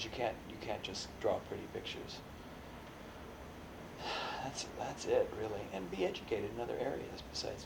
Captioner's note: sighs